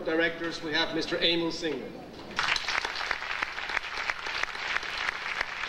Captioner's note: audience applauding